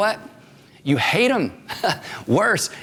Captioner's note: laughs